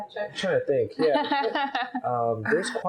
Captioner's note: laughs